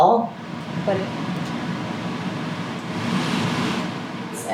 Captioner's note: air whooshing